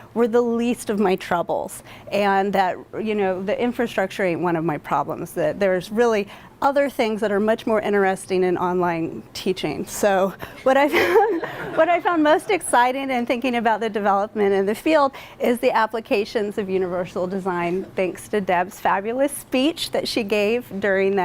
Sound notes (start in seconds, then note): 10.8 laughter